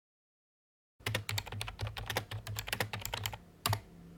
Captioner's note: typing